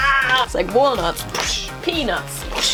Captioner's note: dying sounds; slapping sound